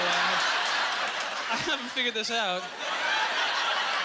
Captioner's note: audience laughter